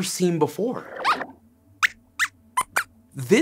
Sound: squeaks squeaks

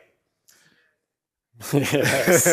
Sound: laughter

